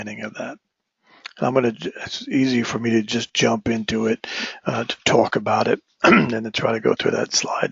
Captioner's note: cough